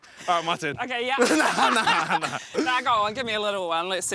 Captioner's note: laughs